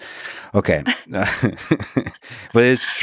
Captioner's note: laughs